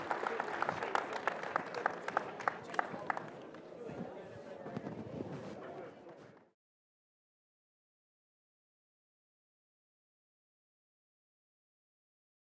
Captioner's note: applause